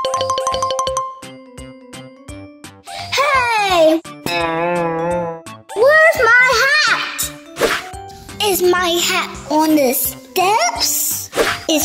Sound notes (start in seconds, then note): 0.0 high-pitched marimba; 4.2 wobbly guitar; 7.6 whoosh